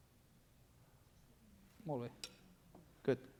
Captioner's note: non-english speech